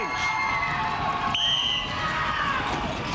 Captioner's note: whistle blows